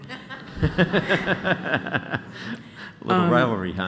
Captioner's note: laughter